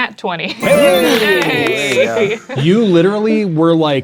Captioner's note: exhales; triumphant beeping sound; players celebrating